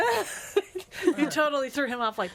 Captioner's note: laughs